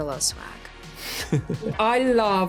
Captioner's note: laughs